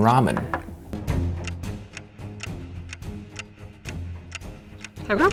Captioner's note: clock ticking